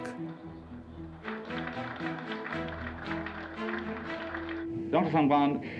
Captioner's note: applause